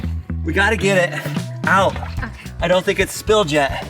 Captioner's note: laughs